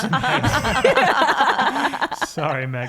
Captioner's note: all laugh